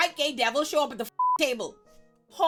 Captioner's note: beep